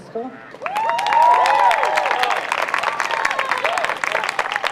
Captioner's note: crowd cheers